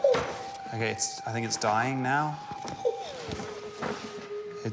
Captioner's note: whimpers